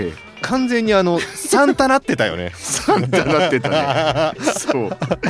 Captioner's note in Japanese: 笑い